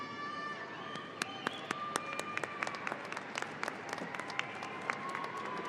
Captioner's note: audience applauding